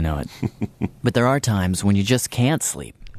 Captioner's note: laughs